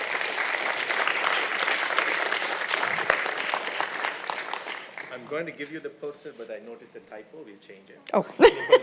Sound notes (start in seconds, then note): 0.0 applause; 8.4 laughter